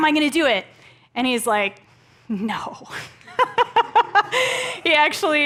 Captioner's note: laughs